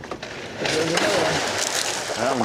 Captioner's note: splash